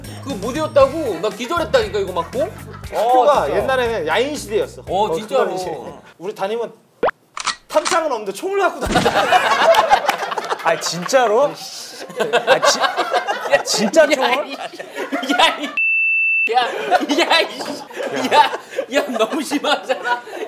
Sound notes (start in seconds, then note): 8.9 laughing; 15.3 cussing